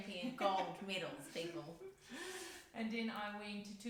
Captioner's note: laughs